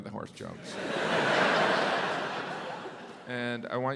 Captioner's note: audience laughs